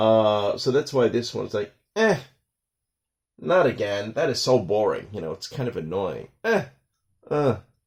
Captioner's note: grunt